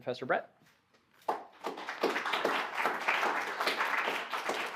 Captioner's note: applause